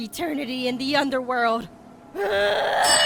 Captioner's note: screams